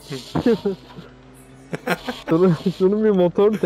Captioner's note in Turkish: Gülme sesleri